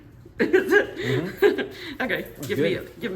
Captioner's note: laughs